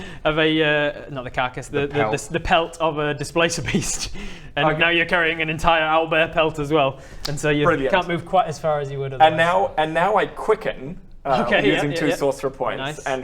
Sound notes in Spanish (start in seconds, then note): none